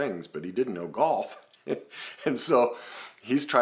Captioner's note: laughs